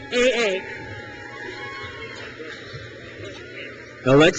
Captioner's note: crowd cheers